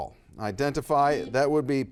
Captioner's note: buzzer buzzes